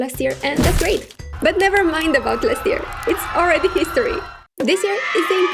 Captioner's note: people panicking